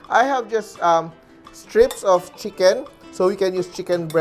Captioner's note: clang